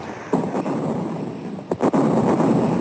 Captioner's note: guns firing; bombs exploding